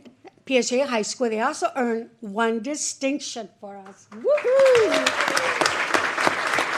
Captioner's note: applause